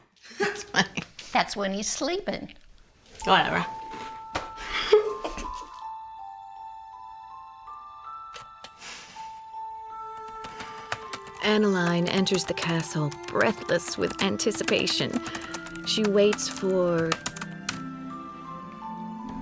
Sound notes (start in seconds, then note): 4.6 giggles; 8.5 inhales; 10.1 typing; 17.0 typing stops